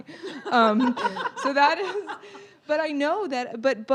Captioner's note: panel laughing